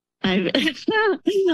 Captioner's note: laughs